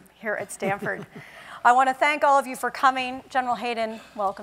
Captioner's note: laugh